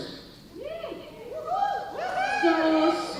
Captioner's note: cheering